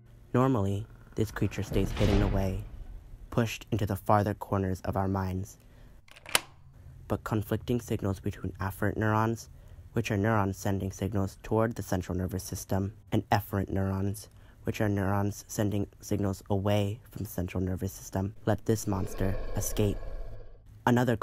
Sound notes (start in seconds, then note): 0.9 creak; 6.0 click of key; 18.5 roar